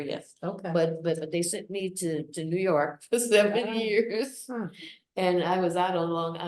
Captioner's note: laughs